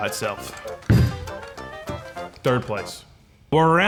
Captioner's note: jar thumping